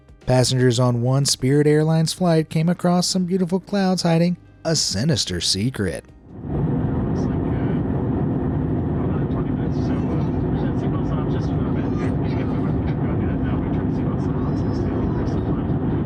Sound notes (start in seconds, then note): 6.4 passengers chattering; 6.4 engine whirring